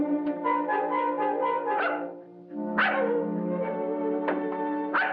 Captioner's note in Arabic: نباح الكلب; نباح الكلب